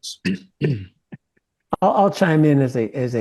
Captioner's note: laugh